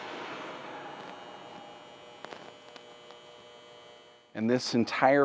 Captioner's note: machinery buzzing